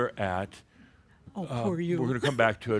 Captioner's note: she giggles